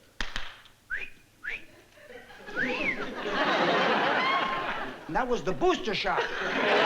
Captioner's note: whistling